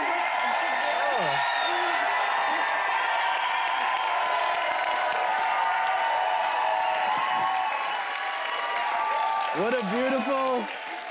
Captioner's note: crowd applauding and cheering